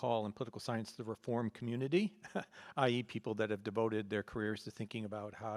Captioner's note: laughs